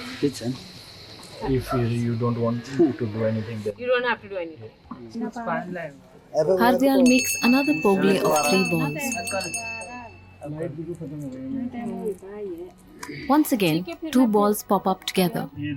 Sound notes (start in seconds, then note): 9.0 bell jingles